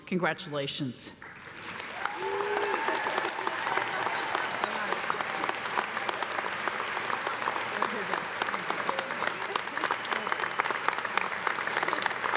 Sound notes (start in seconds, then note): 1.6 audience applauding; 1.6 audience cheering; 3.1 faculty laughing